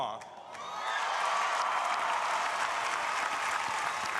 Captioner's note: crowd applauding